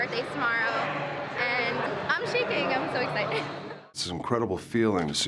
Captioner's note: laugh